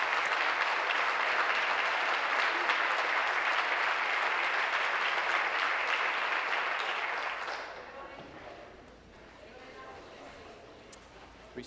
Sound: applause

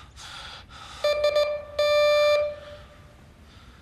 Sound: doorbell ringing

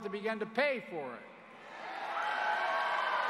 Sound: crowd booing

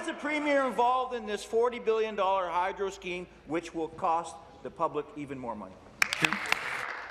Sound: chuckles

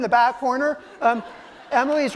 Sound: laughter

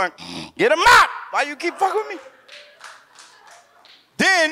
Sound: audience claps

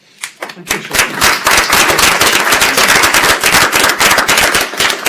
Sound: applause

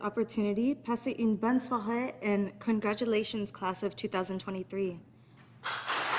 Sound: speaking in French; audience applauding

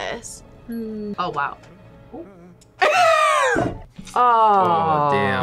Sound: laughs

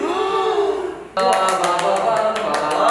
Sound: infinite applause

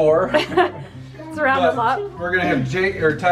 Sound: laughs

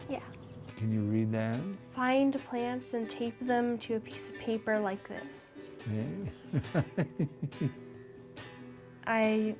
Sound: laughter

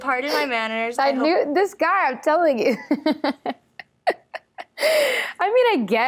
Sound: laughs

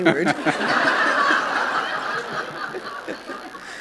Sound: laughter

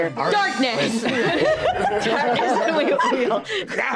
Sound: group laughing

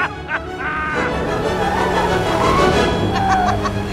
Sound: laughing; car screeching; laughing

